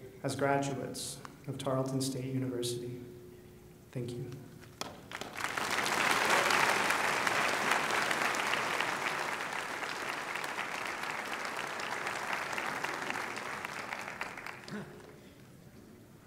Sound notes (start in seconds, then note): 4.5 applause